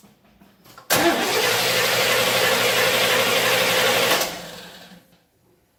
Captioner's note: engine cranks